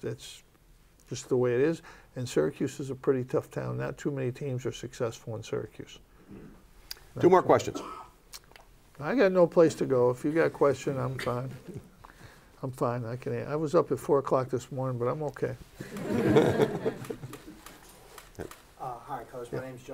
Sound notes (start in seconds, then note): 15.8 laughter